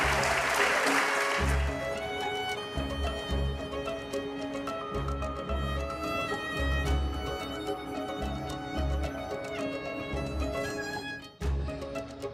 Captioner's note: applause